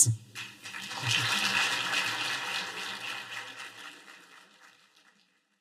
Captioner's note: applause